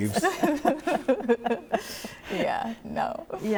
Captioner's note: all laughing